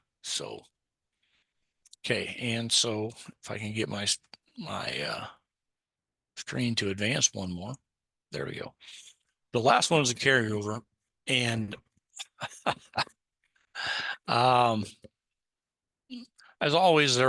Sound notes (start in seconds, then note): 12.2 laughs